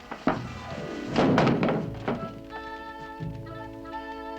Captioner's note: iron clattering